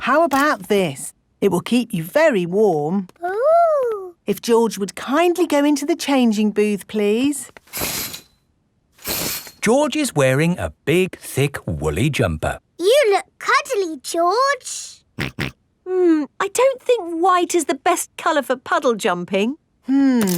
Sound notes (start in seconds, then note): 15.2 snorts